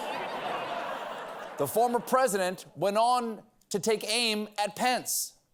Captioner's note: laughter